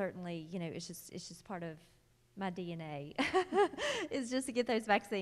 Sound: laughing

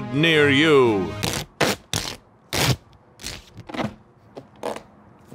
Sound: tearing

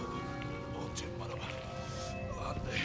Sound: non-english speech

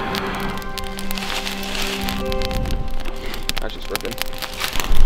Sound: fire crackling

